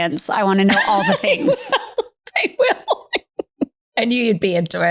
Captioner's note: laughing